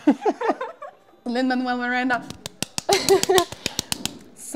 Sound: claps

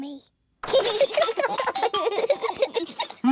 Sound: both giggling

